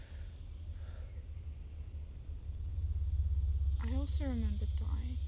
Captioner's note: cicadas chirping; eerie music